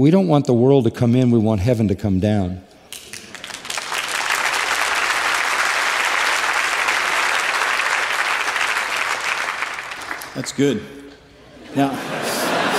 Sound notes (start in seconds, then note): 3.8 applause; 11.6 laughter